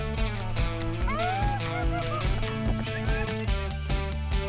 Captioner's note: excited shouting